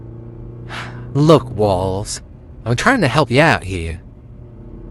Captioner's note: sighs